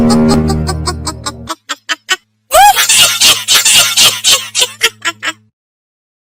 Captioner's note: evil Fairy laugh